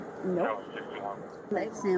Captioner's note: radio chatter